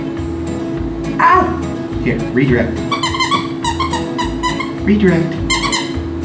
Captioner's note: toy squeaking